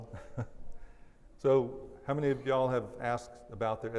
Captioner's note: laughs